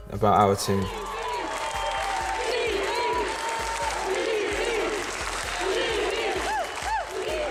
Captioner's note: cheering